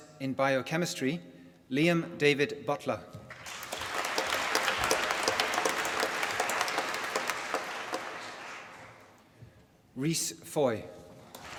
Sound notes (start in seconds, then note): 3.2 applause; 11.2 applause